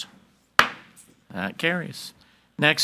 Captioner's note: gavel bangs